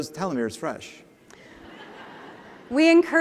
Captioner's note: laughter